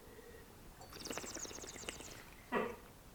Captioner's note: bubbling noise